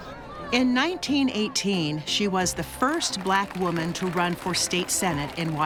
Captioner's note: distant applause